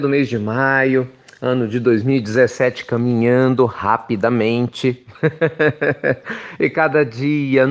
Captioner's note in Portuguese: risos